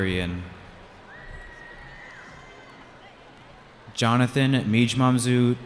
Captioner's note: cheering